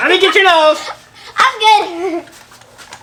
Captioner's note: giggling